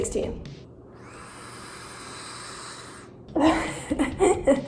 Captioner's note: inhaling; coughing and laughing